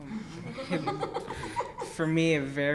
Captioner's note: laughs